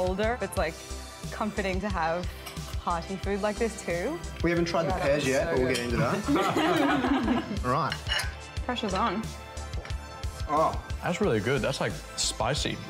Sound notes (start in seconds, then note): 6.0 laughter